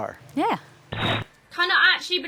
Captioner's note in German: statisch